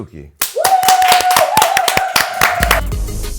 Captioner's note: applause; upbeat music